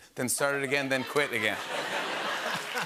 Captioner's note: laughter and applause